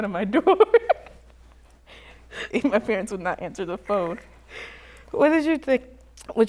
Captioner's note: laughs